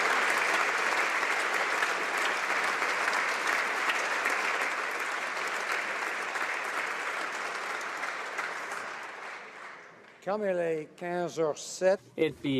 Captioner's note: applause